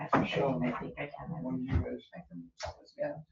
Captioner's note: people chattering indistinctly